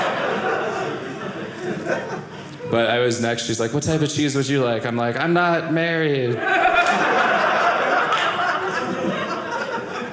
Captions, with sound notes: But I was next. She's like, "what type of cheese "would you like?" I'm like, I'm not married. (audience laughing)